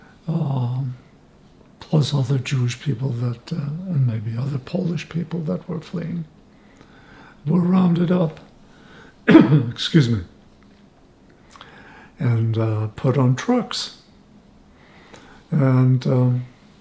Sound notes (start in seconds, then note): 9.2 clears throat